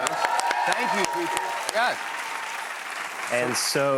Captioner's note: cheers and applause